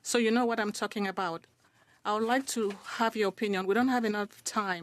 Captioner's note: speaking French